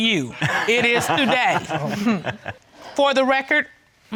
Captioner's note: all laughing